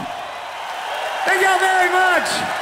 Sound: crowd cheering

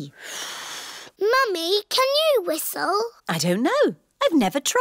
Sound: blows

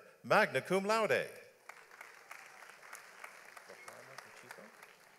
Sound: audience applauds

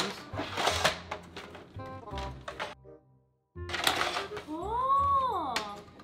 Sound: snapping pieces into place

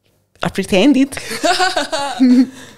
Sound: laughs; chuckles

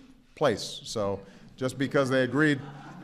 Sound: laughter

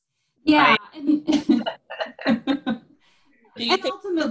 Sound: animated laughing

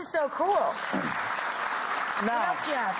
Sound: audience clapping

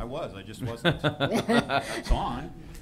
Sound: laughter

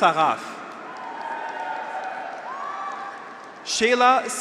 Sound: graduates cheer

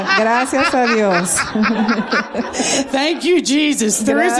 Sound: laughter

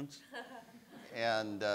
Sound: laughs; audience laughs

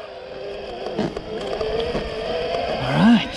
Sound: bike whirring

